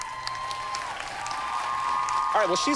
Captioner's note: cheers and applause